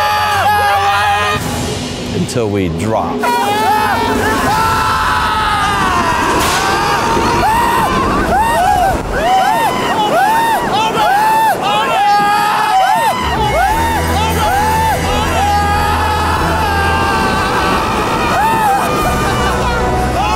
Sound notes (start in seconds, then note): 0.0 screaming; 4.0 so much screaming